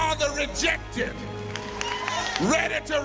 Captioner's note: crowd cheering